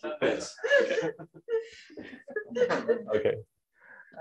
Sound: laughter

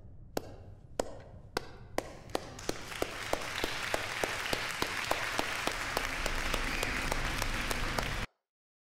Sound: clapping

